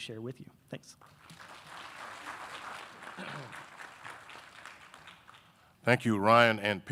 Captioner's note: audience applauding